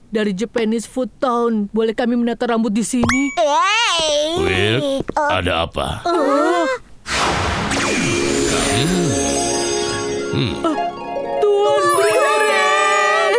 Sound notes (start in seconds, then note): 3.1 exclaims; 6.0 exclaiming; 7.9 harp music